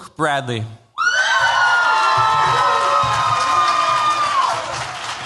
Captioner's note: cheers, applause